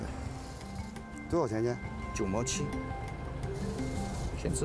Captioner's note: speaking Chinese